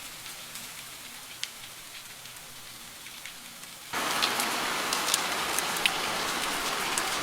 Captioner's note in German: Regengeräusch